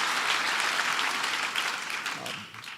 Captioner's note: applause